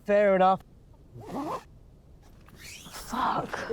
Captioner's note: tent zipping